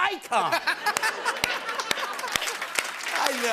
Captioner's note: laughter